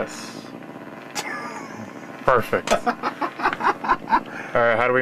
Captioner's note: laughs